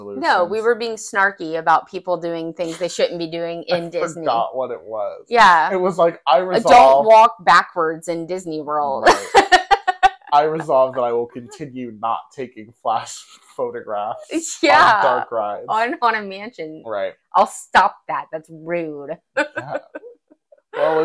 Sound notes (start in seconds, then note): 9.1 laugh; 19.4 laugh